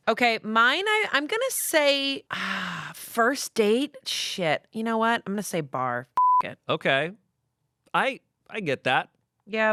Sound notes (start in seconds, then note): 6.2 beep